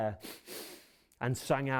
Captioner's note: sniffing